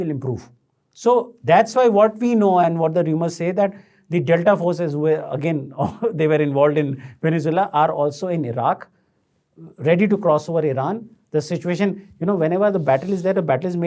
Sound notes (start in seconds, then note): 5.7 chuckles